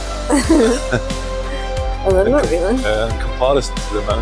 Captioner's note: unicorn laughs